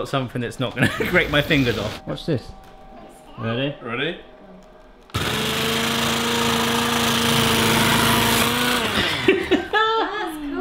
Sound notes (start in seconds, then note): 5.0 grinding; 8.9 laughing